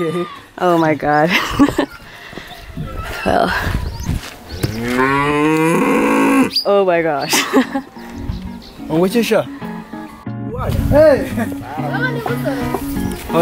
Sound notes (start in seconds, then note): 4.8 cow moos loudly; 11.2 & Towns people greet each other in Kinyarwanda